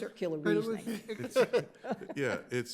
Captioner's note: laughs